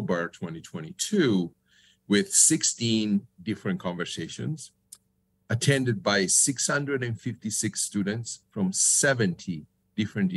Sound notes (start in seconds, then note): none